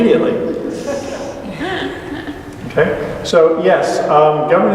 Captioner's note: laughter